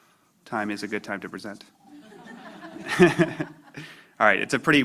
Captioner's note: laughter